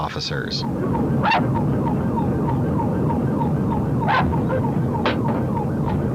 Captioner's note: K9 unit barking; more barking; gunshots